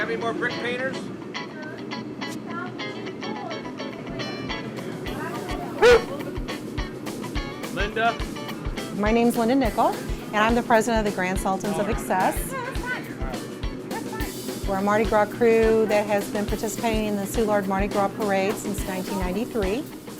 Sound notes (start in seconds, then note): 5.8 dog barks